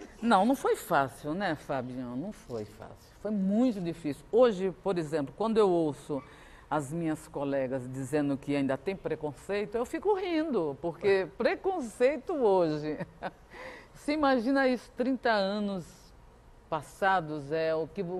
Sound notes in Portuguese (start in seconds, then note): 7.5 risos